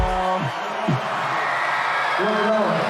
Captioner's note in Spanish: Vítores